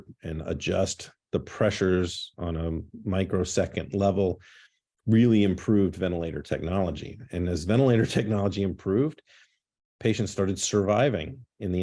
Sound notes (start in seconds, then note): 7.9 laughter